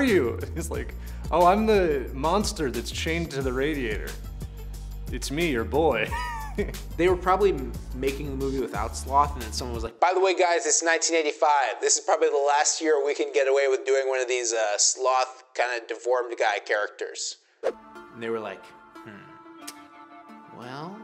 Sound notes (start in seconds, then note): 6.1 laughs; 17.6 pensive instrumental music